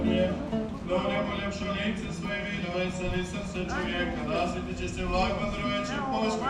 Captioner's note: foreign language speaking on speaker